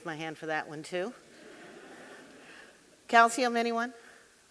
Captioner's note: audience laughing